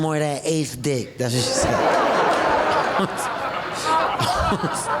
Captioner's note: audience laughing